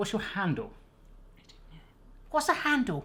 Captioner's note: whispers